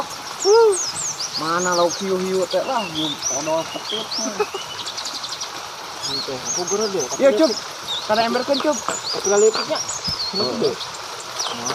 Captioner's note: tata menggerutu